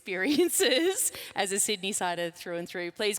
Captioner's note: laughs